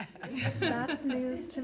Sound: laughter

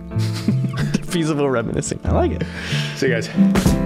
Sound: laughing

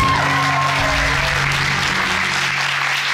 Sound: audience cheering and applauding

